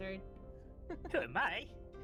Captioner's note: laughs